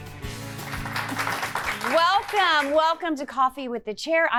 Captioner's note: auddemoe clapping